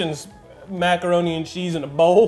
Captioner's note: laughing